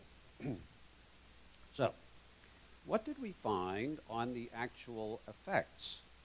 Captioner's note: cough